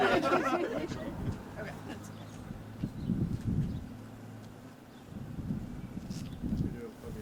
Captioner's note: laughter